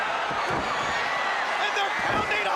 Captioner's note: crowd cheering